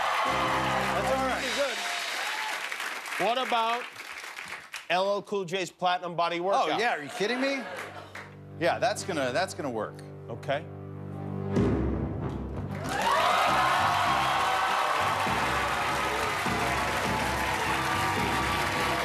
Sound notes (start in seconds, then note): 9.0 cheers and applause